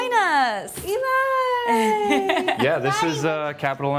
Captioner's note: laughing